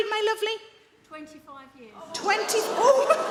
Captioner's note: audience gasp